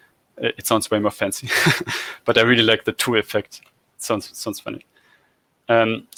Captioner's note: laugh